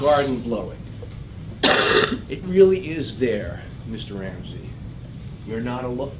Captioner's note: cough